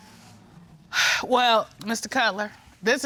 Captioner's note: Judge Dana sighs